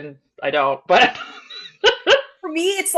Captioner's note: laughs